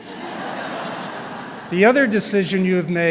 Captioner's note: laughter